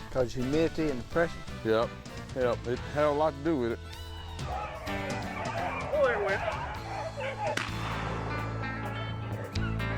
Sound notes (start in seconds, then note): 4.0 dogs barking; 7.5 gun fires